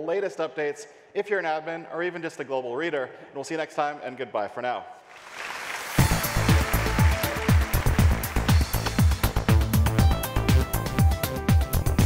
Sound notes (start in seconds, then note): 5.1 applause; 5.9 techno music